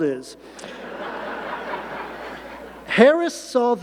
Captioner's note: audience laughing